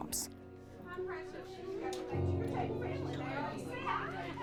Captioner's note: crowd chatters